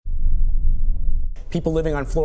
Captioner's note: strong winds